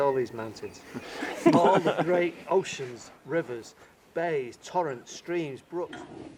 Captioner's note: laughter